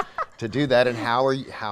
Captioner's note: laughing